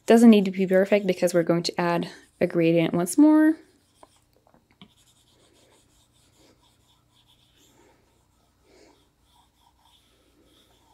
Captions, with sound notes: Doesn't need to be perfect because we're going to add a gradient once more. (pencil scratching)